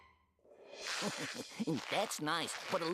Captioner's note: chuckling